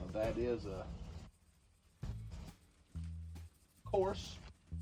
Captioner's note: salt sprinkling